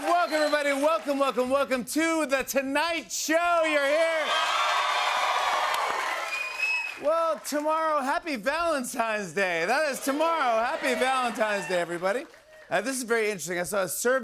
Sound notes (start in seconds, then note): 3.8 cheers and applause